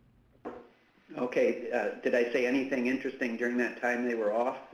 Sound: voiceover

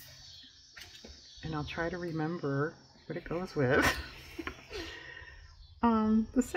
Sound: laughs

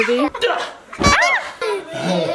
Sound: person exclaiming; child laughing

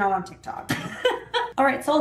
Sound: laughs

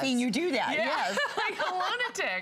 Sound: laughter

